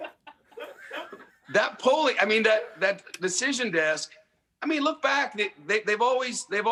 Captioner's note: laughter